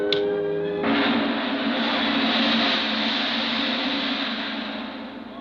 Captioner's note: lamp chiming; gong banging